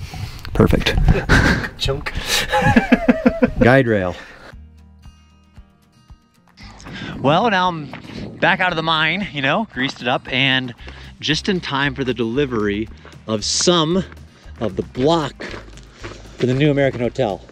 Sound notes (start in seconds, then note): 0.0 relaxing guitar music; 2.2 men chuckling; 4.5 relaxing guitar music